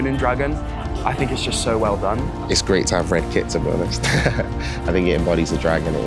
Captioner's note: laughs